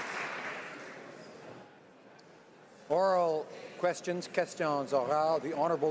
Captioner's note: applause